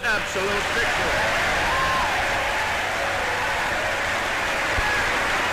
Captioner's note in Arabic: تصفيق الجمهور